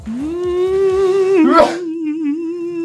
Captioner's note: sneeze